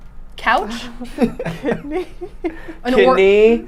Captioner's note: laughing